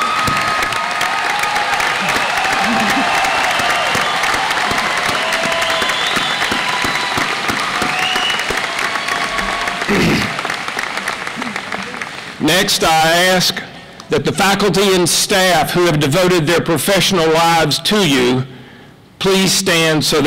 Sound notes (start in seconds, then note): 0.0 applause; 0.7 laughter